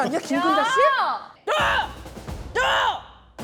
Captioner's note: In Kim Geun-ja’s tone